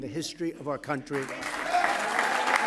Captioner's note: applause